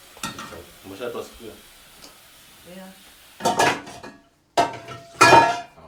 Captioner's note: speaking in foreign language